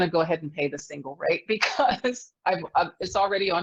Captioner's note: laughs